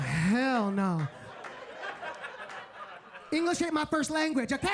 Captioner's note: audience laughing